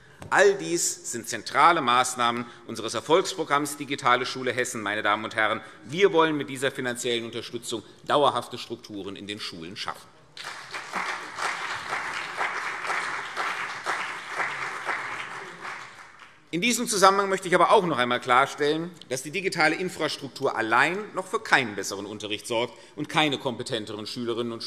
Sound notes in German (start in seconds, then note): 10.4 Beifall CDU und BÜNDNIS 90/DIE GRÜNEN